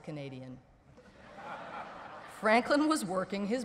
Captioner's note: laughter